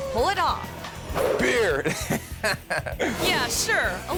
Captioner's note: chuckles